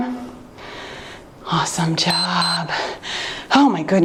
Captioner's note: timer beeps